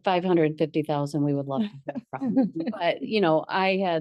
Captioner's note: board members laugh